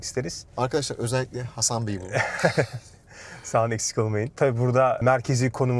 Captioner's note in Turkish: kahkaha